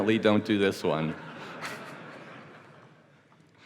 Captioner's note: laughter